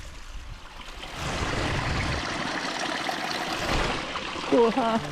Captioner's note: water running